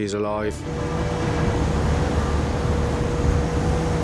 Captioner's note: lifeboat vrooming